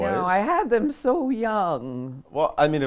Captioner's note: old woman voice